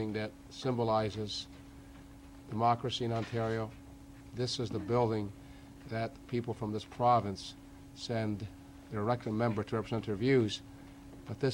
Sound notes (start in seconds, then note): none